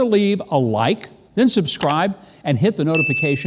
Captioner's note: clicking sound